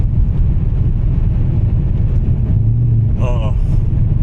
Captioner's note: engine revving